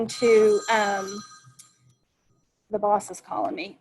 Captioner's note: phone ringing